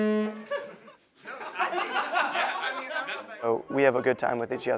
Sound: laughter

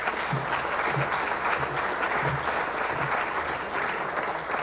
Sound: applause

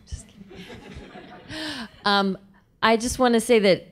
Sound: laughing

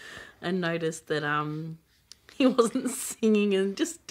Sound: laughs

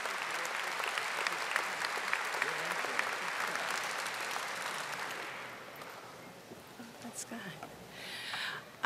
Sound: audience applauding

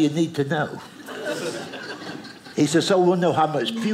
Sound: audience laughing

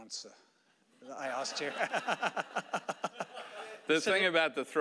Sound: audience laughing

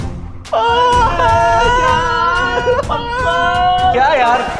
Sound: crying

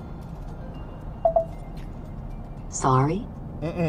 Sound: beeping

